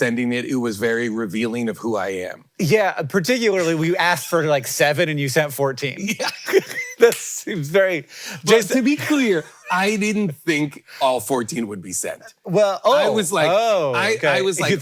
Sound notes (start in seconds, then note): 6.0 laughs